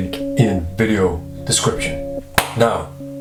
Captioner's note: hand clap